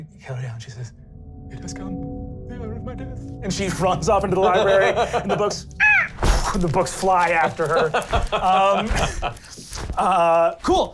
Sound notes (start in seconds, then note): 5.8 screeching